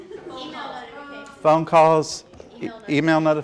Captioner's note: audience chatters